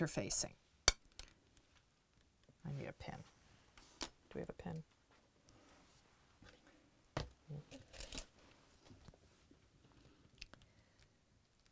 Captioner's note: no Significant Sound